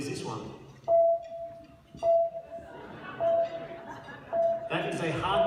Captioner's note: ECG beep